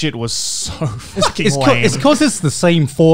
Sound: laughing

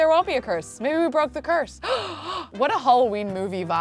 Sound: gasping

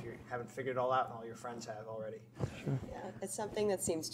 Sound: chuckles

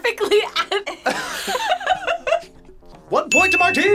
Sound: both laugh

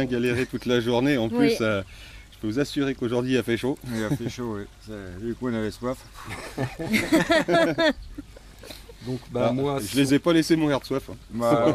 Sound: laughs

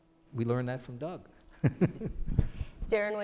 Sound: chuckles

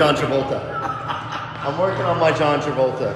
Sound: laughs

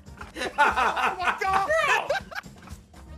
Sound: laughs

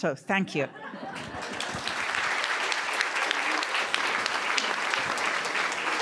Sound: attendees applauding

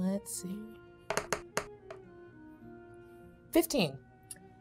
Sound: dice rolling

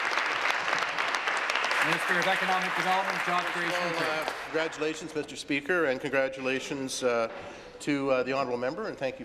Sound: applause

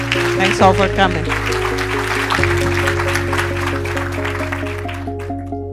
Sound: applause

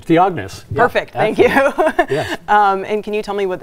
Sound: laughs

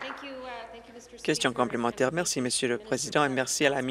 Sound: applause

